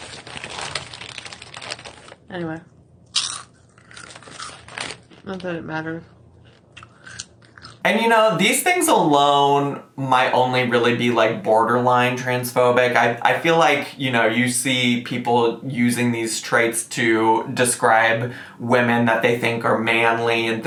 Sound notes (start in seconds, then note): 0.0 chip bag rustling; 3.1 chips crunching; 6.4 chips crunching